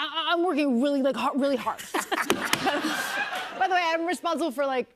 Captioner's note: laughter